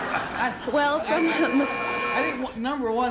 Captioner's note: buzzer